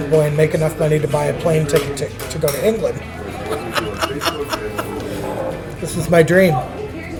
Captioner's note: laughs